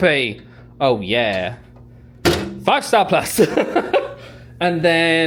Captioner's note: laughing